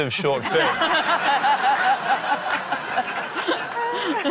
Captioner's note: laughter